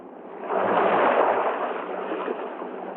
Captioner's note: waves crashing